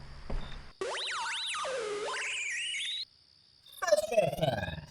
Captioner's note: intercom Speaker glitches out